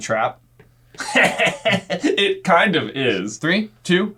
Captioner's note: laughing